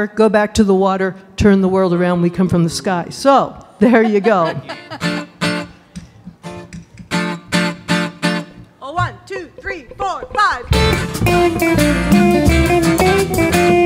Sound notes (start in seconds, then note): 3.8 laughing; 4.4 guitar strumming; 10.9 upbeat music